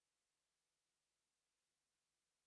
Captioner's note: none